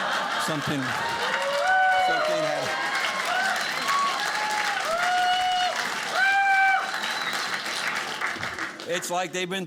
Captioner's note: audience laughing